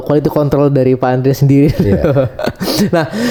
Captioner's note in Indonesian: tertawa